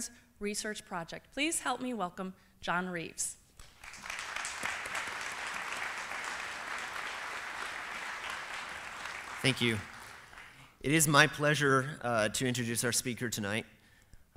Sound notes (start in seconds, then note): 3.6 applause